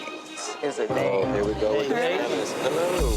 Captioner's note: indistinct chatters